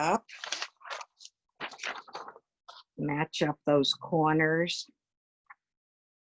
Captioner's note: paper wobbles